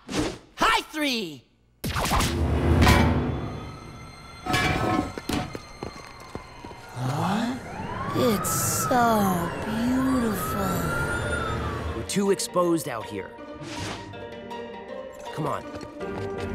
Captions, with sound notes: High three! [siren in distance] It's so beautiful. We're too exposed out here. Come on!